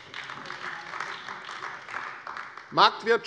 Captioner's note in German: Beifall AfD